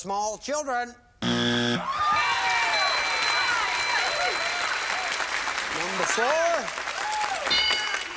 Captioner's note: buzzer